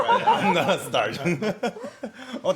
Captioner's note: laughing